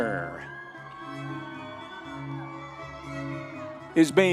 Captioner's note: audience members cheering